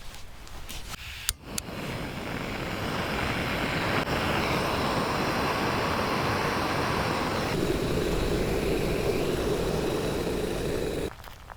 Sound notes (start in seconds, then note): 1.3 sound of the gas stove and boiling water